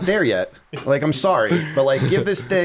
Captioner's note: laughter